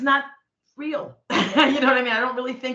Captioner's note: chuckling